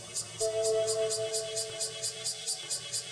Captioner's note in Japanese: セミの鳴き声